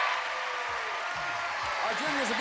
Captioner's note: cheers and applause